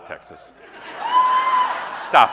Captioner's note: audience member cheering; audience laughing